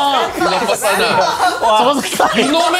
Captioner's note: laughs